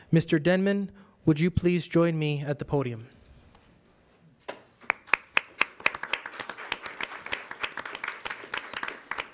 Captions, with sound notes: Mr. Denman, would you please join me at the podium? (audience applauds)